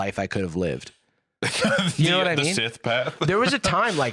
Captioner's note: laughs